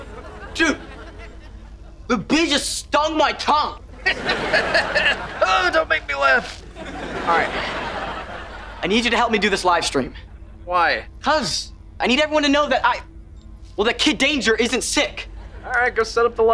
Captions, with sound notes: Dude... the bee just stung my tongue. [laughing] Uh, don't make me laugh. Alright... I need you to help me do this livestream. Why? 'Cause I need everyone to know that I... well, that Kid Danger isn't sick. Alright, go set up the livestream.